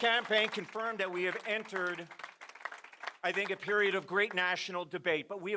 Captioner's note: applause